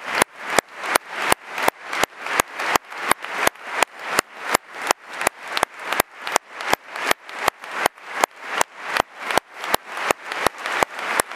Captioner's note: applause